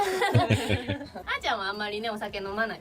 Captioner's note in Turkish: kahkaha